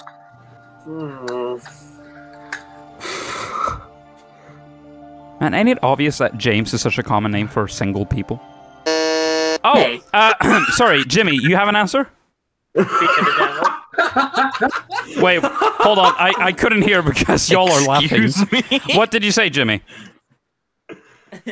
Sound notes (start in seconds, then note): 8.8 buzzes; 10.2 coughs; 12.7 group laughter; 21.0 soft laugh